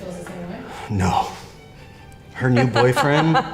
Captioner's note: interviewee laughs